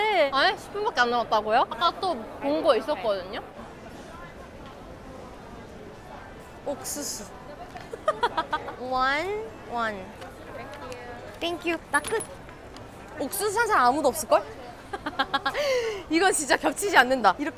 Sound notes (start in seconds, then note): 14.9 laughing of satisfaction; 15.0 laughing